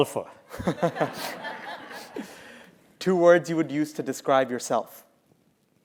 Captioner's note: laugh